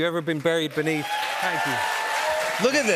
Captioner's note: cheers and applause